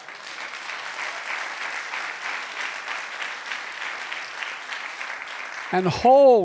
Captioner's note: applause